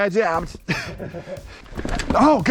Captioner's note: both laugh